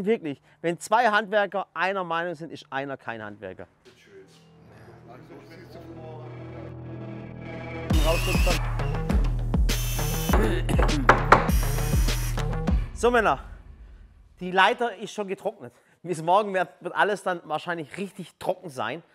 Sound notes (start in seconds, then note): 10.3 Räuspern, Hämmern